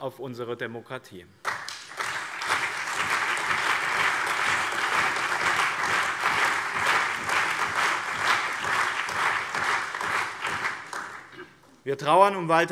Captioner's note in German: Allgemeiner Beifall